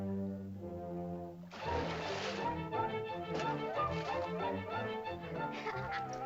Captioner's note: whimsical music; intense whimsical music; water splashes; soft music; children laugh